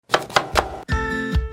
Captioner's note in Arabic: تقطيع سكين